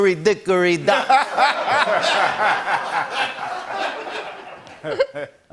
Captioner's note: laughter